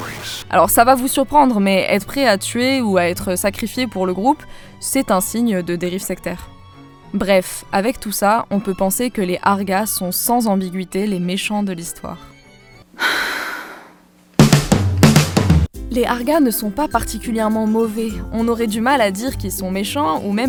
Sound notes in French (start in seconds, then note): 12.9 soupir; 14.4 roulement de tambours